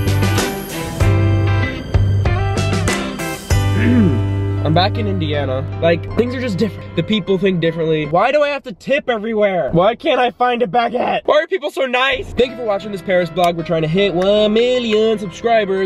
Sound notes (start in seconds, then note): 3.7 clearing throat